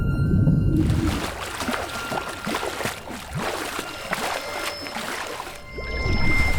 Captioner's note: tense music; water splashing